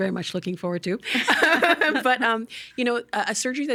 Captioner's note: both laughing